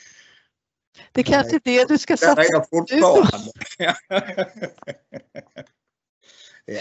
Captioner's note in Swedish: skratt